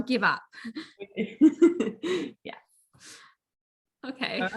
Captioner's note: chuckles